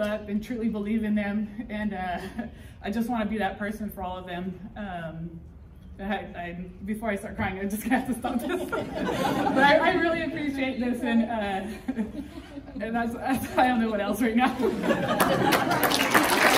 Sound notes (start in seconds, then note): 8.2 people laughing; 11.3 more laughing